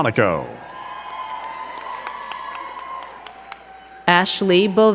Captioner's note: crowd cheering and clapping